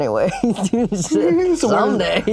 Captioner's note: laughs